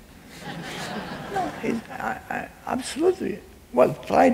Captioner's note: laughing